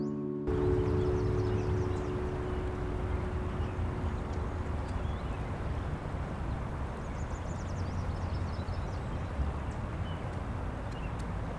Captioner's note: bird calls and traffic